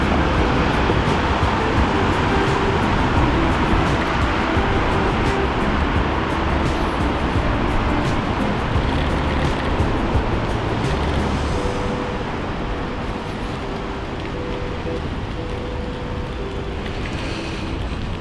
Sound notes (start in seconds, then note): 7.1 wind Blowing